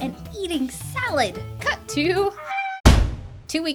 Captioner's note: trashcan slamming shut